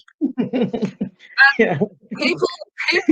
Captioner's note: chuckling